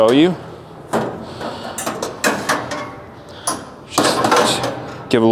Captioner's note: grates clinking